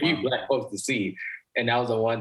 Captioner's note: chuckles